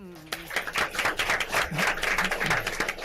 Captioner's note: clapping